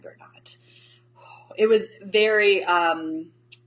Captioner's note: exhales